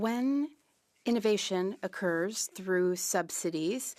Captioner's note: speaking French